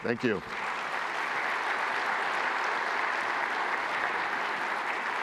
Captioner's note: applause